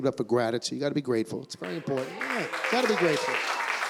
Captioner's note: clapping